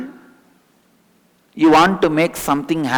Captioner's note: hindi